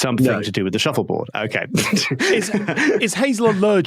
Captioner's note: laughs